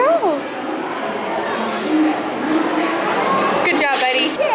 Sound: crowd chattering

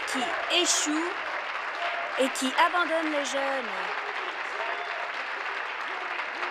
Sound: applause

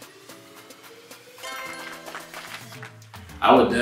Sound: applause sound effect plays

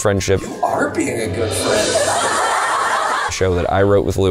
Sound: crowd laughing

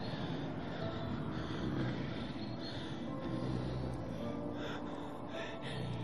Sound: growling

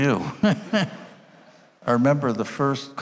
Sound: all laughing

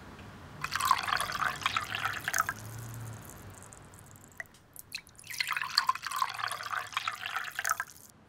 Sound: tea pouring to glass

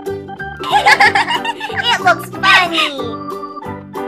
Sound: laughing

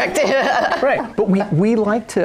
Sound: laughing

